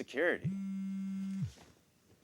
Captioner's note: phone buzzes